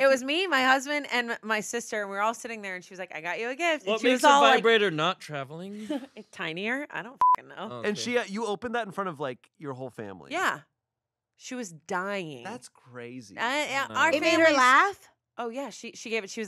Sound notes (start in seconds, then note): 7.2 beep